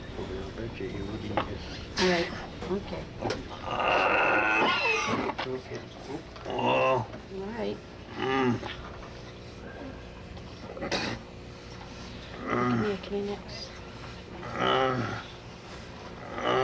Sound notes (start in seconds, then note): 3.3 expelling Phlegm, Coughing; 6.4 groans; 10.3 spits